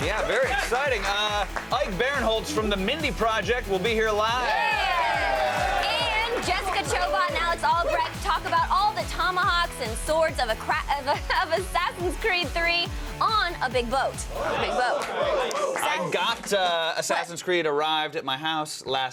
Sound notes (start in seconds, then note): 4.2 cheers and applause